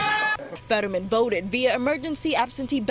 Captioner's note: cheers and applause